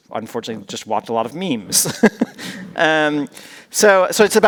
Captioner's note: laughing